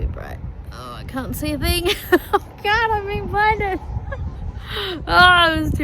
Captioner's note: laughs